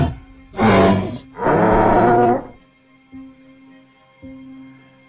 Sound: triceratops sounds

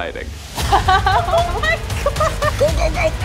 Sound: women laughing

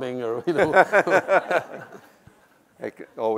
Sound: laughs

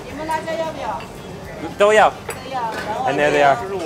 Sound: speaks in Chinese

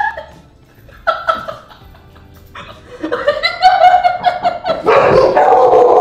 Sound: start to laugh; cackles

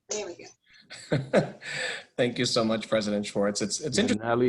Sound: laughter

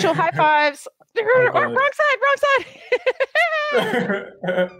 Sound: both laughing; laughing

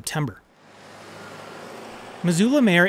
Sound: car whooshing

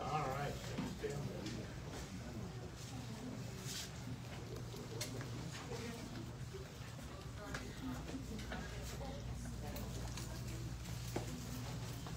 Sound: indistinct chatter

